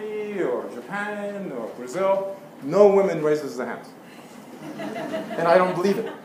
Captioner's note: laugh